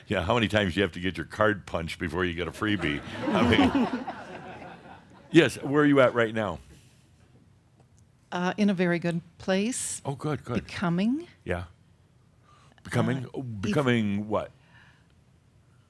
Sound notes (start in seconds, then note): 2.8 more laughter